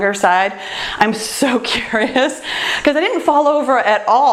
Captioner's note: laughs